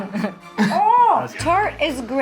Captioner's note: chefs laughing